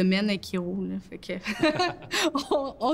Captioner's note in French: rires